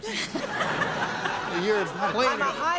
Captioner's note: laughter